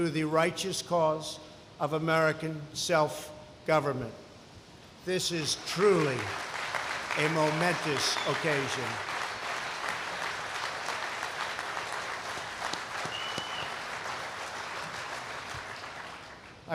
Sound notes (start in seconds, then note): 8.7 applause